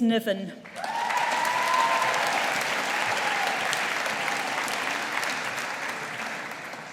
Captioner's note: audience applauding